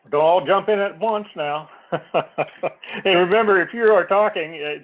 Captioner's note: laugh